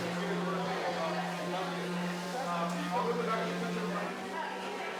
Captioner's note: people chattering